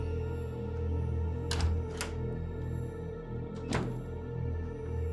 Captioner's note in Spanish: sonido al cerrar la puerta